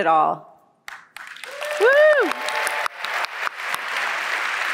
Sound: applause

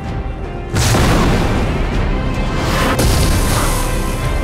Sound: explosions boom

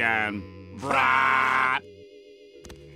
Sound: yelling

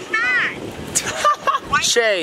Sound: laughs

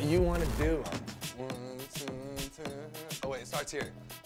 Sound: moaning

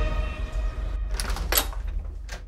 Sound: door opening

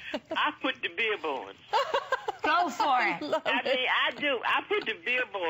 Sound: laughter

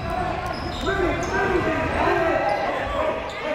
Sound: shouting

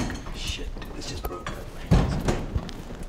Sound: quietly

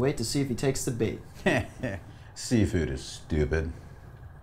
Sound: chuckles

